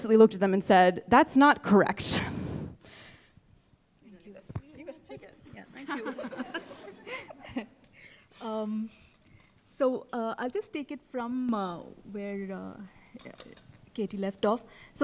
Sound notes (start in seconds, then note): 5.7 chuckling